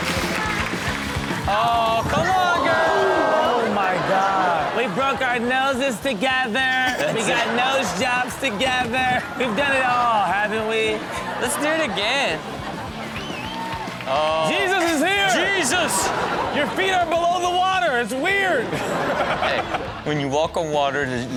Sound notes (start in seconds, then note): 0.1 upbeat music; 12.7 people cheering; 18.4 audience laughing; 18.6 laughing